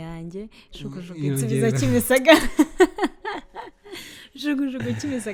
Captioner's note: laughs